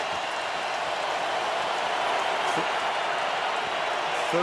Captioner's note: crowd roaring